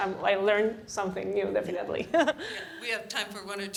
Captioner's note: laughter